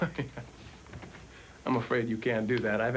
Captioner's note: chuckles